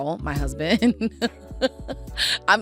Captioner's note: laughing